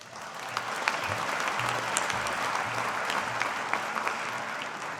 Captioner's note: audience applauding